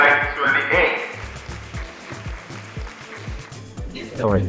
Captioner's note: crowd clapping